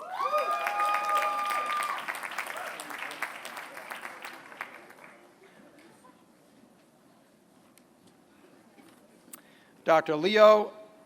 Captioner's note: applause